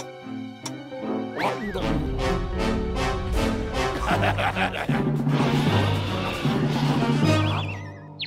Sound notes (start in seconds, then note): 3.9 laughing; 4.7 crashing, gobbling noises; 7.2 birds chirping